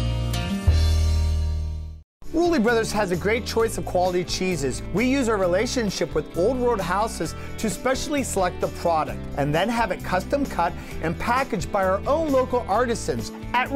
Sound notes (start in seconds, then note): 2.1 voiceover